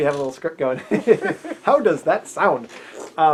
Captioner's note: both laughing